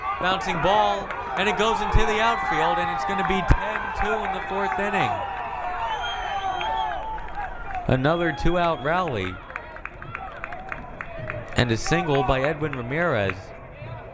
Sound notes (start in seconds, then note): 6.3 crowd cheering